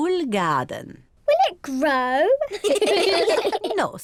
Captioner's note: all laugh